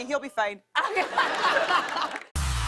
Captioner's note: laughter